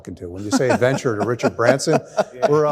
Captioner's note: laughing